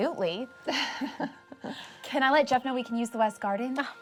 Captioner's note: laughs